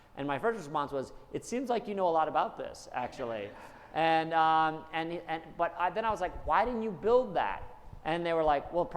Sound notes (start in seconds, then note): 3.0 attendees laughing